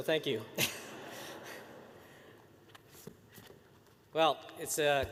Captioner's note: laughter